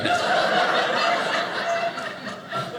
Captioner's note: audience laughing